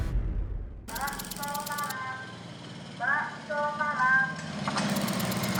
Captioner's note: theme music concludes; woman speaking Indonesian over P.A